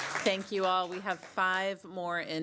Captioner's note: applause